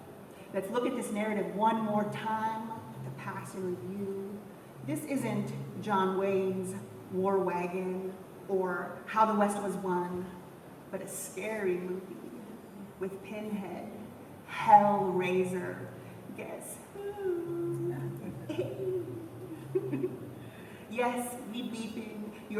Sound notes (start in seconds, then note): 19.8 laughs